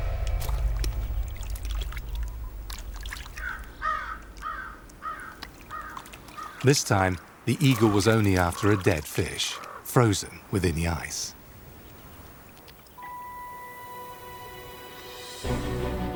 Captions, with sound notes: (bird cries) This time, the eagle was only after a dead fish, frozen within the ice. (gentle music)